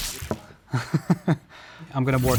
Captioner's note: chuckles